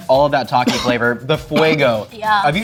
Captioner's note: speaks in foreign language